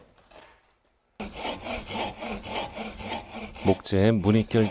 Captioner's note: sawing sound